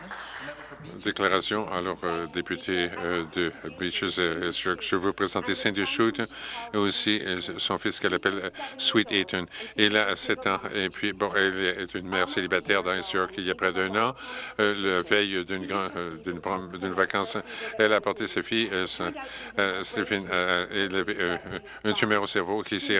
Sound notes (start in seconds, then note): 0.0 some Applause